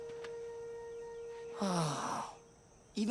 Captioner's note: sighing